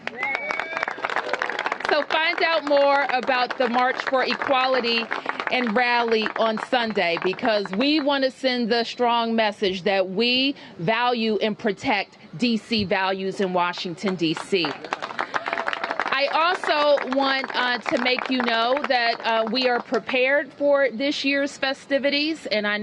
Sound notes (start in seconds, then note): 14.1 applause